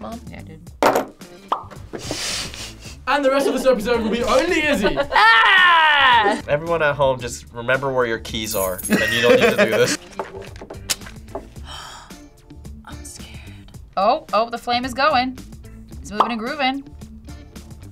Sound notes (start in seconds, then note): 3.2 laughs; 5.0 screams; 11.0 fire crackles; 11.5 gasps; 12.9 whispers